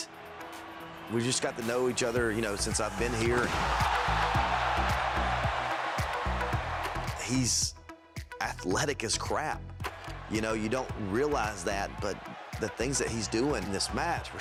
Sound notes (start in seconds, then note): 4.4 crowd cheers